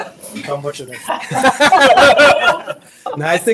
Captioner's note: laughs; audience laughs